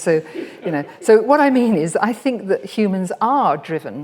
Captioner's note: audience laughs; laughs